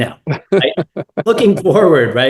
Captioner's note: laugh